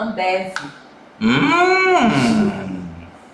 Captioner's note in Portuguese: expressão de surpresa